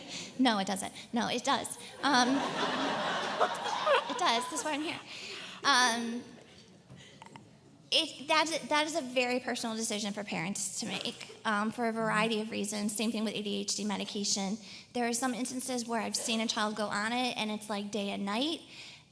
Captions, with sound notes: No, it doesn't. No, it does. (LAUGHTER) It does, that's why I'm here. That is a very personal decision for parents to make for a variety of reasons, same thing with ADHD medication. There are some instances where I've seen a child go on it and it's like day and night.